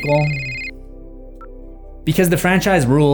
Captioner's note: cell phone rings